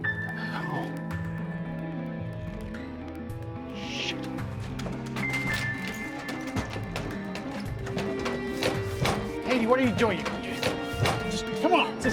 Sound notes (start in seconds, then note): 4.1 clattering